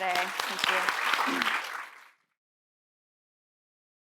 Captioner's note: applause